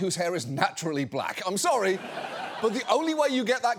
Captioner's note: audience laughs